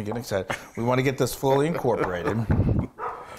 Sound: laugh

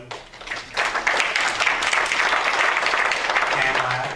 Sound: applause

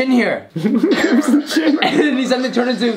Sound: laugh

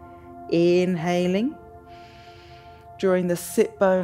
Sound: inhales

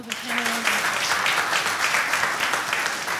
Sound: applause

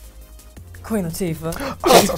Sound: laughs

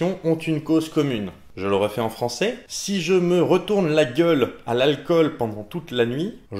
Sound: in english this time

